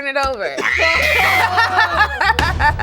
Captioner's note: buzzer beeping; shrieking; group laughing